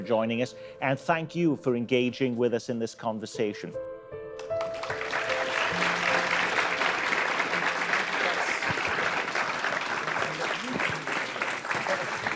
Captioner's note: applause